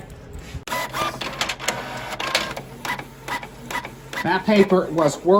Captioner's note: document printing